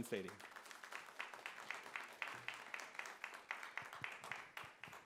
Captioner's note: audience applauds